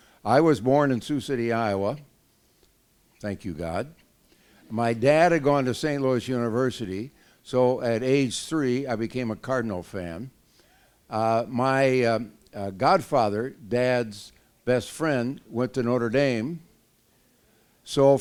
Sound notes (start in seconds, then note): none